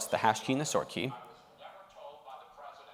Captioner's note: background chatter